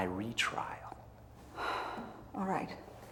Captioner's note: sighs